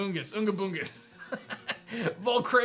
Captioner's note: laughs